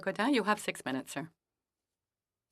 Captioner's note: speaking French